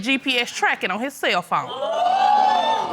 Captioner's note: audience exclaims